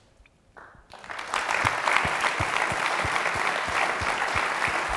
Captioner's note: applause